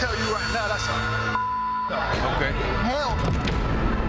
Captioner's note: beep